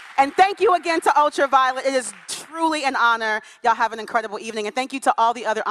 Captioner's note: cheering and applause